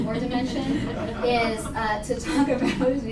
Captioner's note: laughter